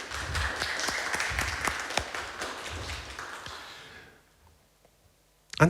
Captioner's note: applause